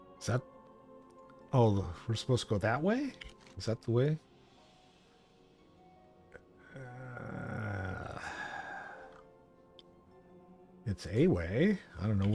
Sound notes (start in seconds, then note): 6.7 man grunting